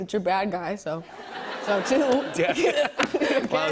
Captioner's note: laughter